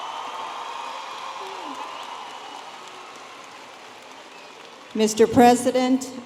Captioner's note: audience applauding and cheering